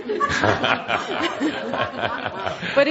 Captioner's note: laughs